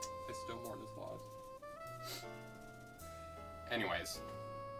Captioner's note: sniffs